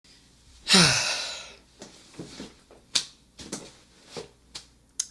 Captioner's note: sigh